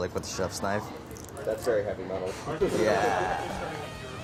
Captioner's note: laughs; rock music